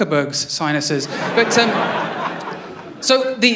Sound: laughter

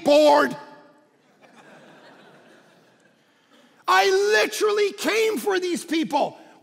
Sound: congregation laughing

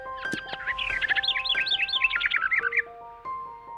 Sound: chirping; gentle music

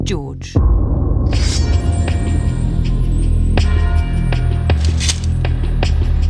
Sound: bell tolls; sword unsheathes; sword clinks

